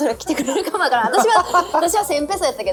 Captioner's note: laughs